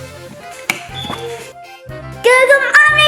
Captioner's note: light switch clicking